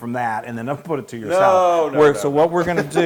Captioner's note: laugh